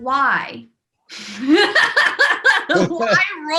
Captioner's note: laughs